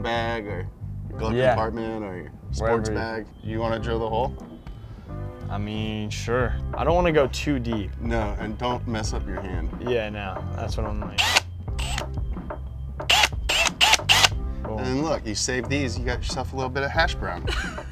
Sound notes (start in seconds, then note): 11.2 drill whining in bursts; 17.7 laughing